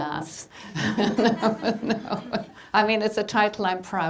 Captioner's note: laughing